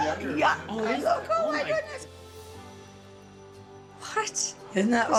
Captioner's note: overlapping chatter & laughter